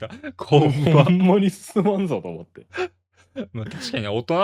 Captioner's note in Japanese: 笑い; 笑い